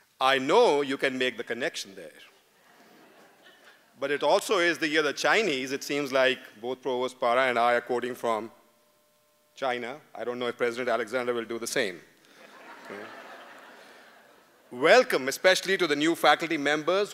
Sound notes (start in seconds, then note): 2.6 laughter; 14.6 laughter